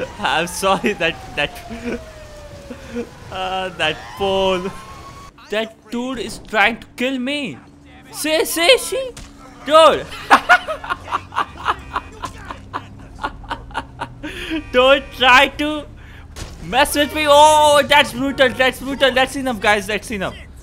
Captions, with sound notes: I'm sorry that... that... That pole That dude is trying to kill me! See, see, see. Dude! *Laughs* Don't try to mess with me. Oh, that is brutal. That is brutal, that's enough guys. That's enough.